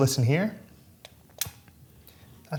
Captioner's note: click